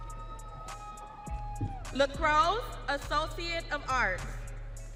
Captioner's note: audience cheering